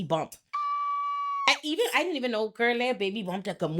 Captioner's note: bell ringing